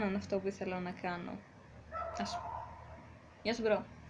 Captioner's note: dog barks